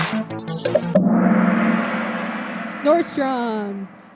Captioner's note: gong sound